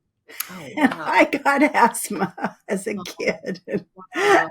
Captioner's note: laughs